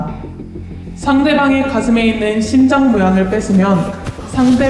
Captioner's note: sobbing